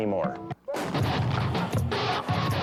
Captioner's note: cannon shot exploding; dramatic instrumental music